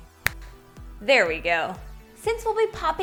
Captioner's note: snapping